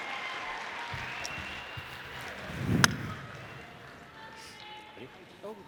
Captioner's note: audience applauding